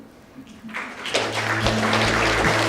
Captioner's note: audience applauses